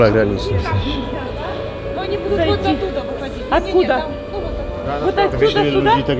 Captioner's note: conversation in background